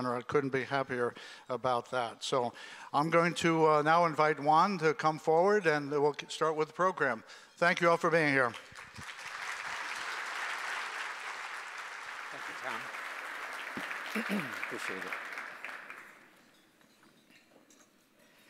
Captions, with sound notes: I couldn't be happier about that. So, I'm going to now invite Juan to come forward, and we'll start with the program. Thank you all for being here. (applause) >> Appreciate it.